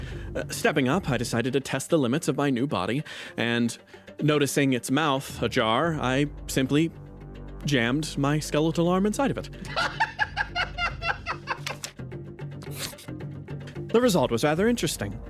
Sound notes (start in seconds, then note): 9.7 laugh